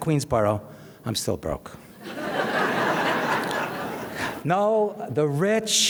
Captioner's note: audience laughs